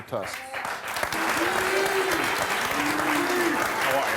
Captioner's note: applause